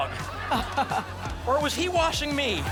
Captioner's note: laughter